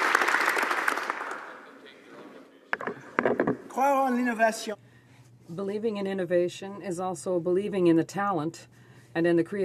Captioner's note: applause